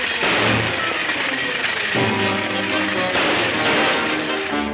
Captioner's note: gunshots banging